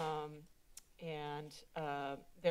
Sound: clicks Tongue

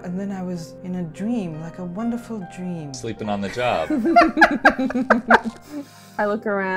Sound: laughter

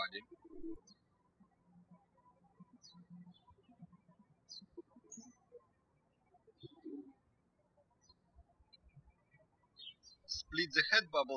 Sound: birds chirping

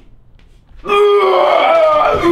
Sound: makes barf noise

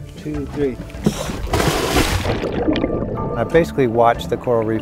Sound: splashing

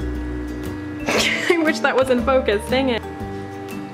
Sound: laughs

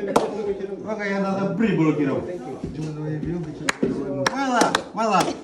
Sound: speaking in foreign language

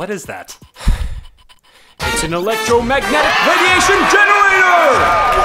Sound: sighs

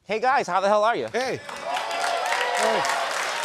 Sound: cheers and applause

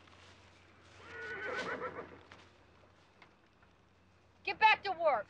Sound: horse whinnying

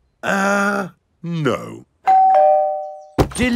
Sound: doorbell rings

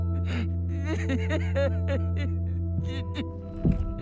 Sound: sobbing

